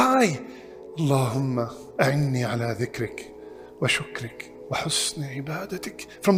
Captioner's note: Arabic